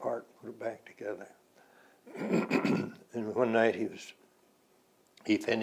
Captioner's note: clears throat